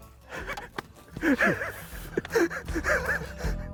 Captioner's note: laughing